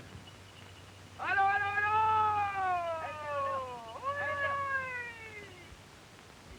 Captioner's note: men yelling